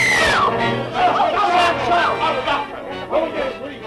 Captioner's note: tense music; men yelling